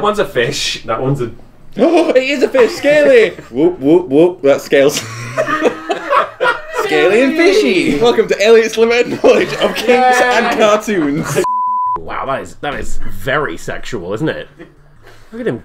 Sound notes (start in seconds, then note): 4.9 laughter